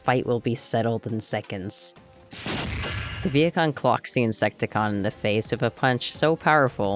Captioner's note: bang!